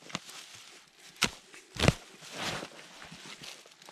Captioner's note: leaves crunching